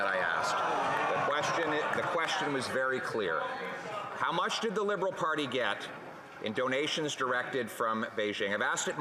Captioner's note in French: voix de l'interprète